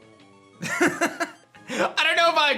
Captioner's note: laughs